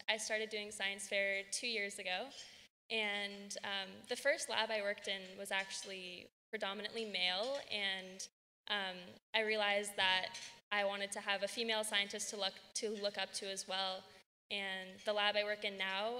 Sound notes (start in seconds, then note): none